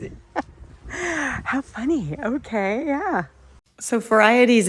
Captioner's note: laughing